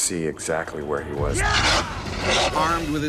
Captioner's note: shouting; voiceover